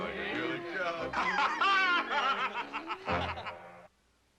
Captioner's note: laughter